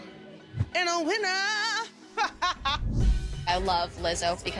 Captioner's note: laughs